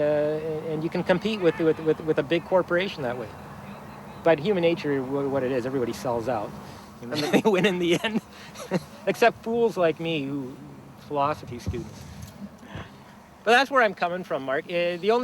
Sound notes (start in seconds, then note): 7.0 chuckles; 7.1 laughs